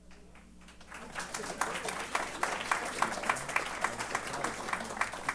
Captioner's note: applause